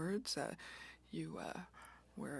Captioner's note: speaking French